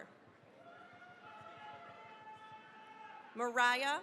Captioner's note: cheering, applause